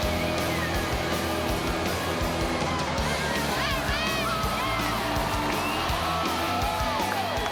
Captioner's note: crowd cheering; upbeat rock music continues